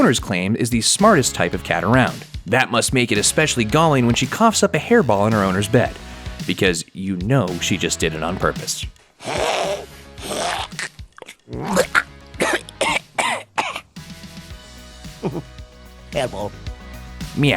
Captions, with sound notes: owner claims is the smartest type of cat around. That must make it especially galling when she coughs up a hairball in her owner's bed. Because you just know she did it on purpose. (cat choking up a hairball) "Hehe, hairball."